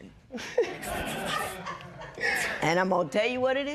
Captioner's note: laughter